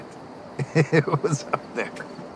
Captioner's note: chuckles